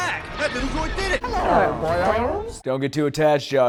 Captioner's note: Jar Jar noises